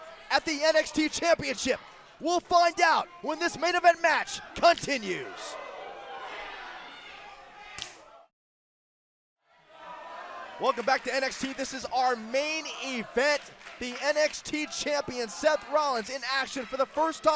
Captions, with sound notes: WE'LL FIND OUT WHEN THIS MAIN EVENT MATCH CONTINUES. >> [CROWD CHATTER] >> WELCOME BACK TO NXT. THIS IS OUR MAIN EVENT, THE NXT CHAMPION, SETH ROLLINS, IN ACTION FOR THE FIRST TIME SINCE